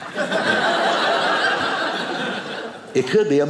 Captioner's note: audience laughing